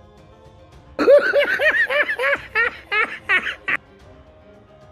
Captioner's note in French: Rire